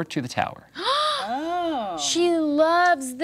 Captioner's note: others gasping